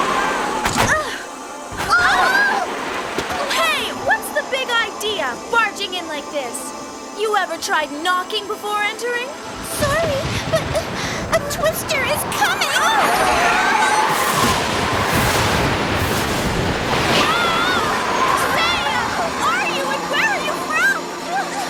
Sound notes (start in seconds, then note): 0.0 windows closing; 0.3 exclaiming; 12.0 yells; 14.0 lightning striking and wind howling